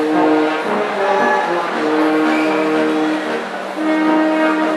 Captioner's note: audience cheering